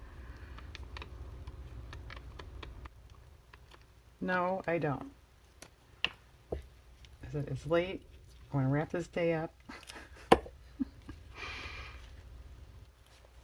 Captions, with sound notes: no, I don't it's late, I want to wrap this day up (laughs)